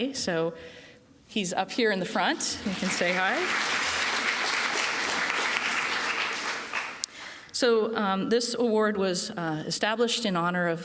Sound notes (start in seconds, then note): 2.3 applause